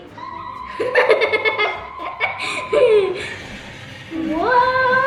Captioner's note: chuckles